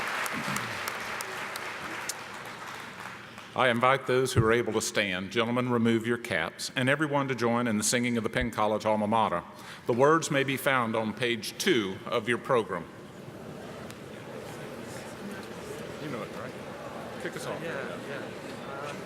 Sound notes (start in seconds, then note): 13.2 murmuring